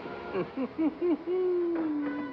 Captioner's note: chuckles; whimsical music